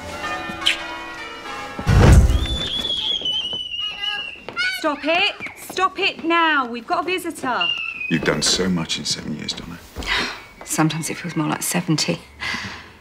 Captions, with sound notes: (CHILDREN SQUEALING) Stop it. Stop it now. We've got a visitor. You've done so much in seven years, Donna. Sometimes it feels more like 70.